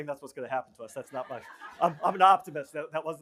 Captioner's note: laughter